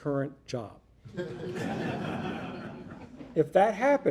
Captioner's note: audience laughing